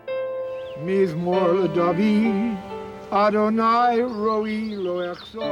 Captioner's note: speaking hebrew